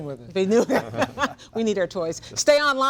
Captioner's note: laughs